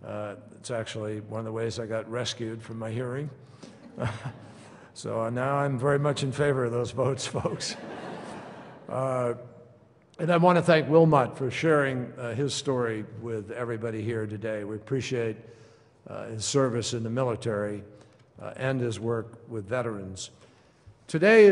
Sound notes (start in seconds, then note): 3.7 laughter; 9.3 laughter